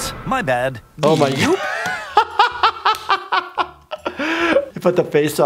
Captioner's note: intense music; laughing